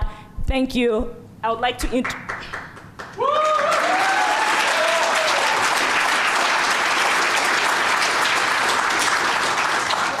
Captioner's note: applause